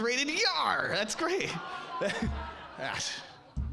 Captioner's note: audience laughing